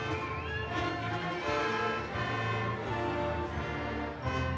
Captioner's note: audience cheering